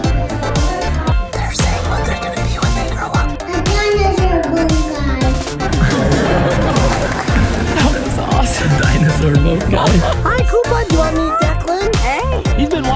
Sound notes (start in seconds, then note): 5.8 background laugher